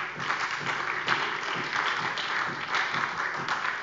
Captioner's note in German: Beifall bei der SPD